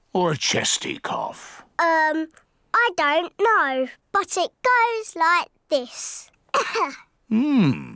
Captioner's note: coughs